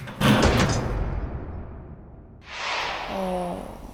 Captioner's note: sudden loud noise